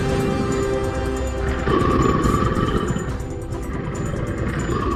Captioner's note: creature snarling